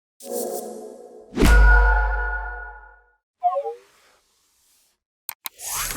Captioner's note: logo whooshing and pinging; mouse clicking